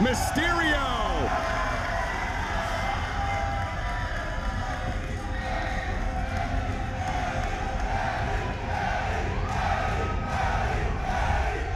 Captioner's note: applause